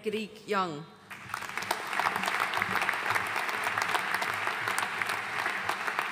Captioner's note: audience applauding